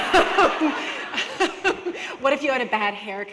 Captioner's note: laughter